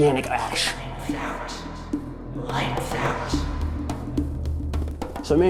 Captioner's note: echoing